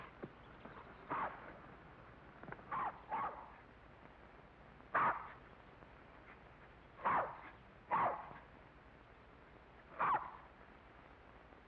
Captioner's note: dog barks